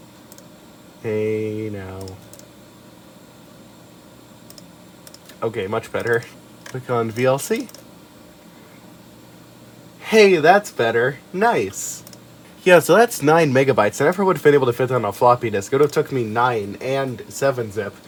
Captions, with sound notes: (click) Hey now... (click click) (click) (click) Ok much better. Click on VLC! Hey, that's better! Nice! Yeah so that's 9MBs, I never would have been able to fit that on a floppy disk. It would take me 9 and 7-Zip.